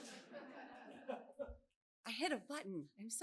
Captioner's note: laughter